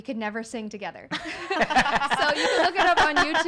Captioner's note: laughing